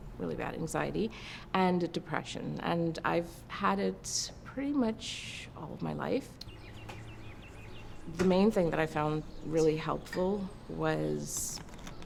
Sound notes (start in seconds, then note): 6.4 birds chirping